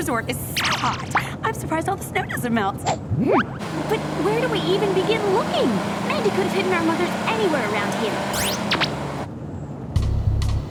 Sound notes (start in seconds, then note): none